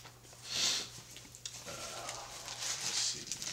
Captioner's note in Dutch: snuift